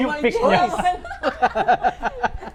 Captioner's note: laughs